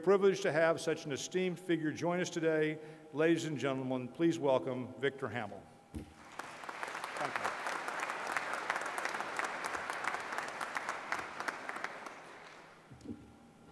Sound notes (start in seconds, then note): 6.1 applause